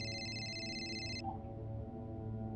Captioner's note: phone rings; beep